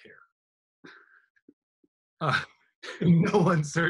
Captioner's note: laughing